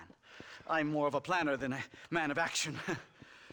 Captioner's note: laugh